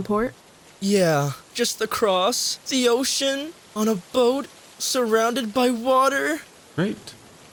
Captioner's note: deep breath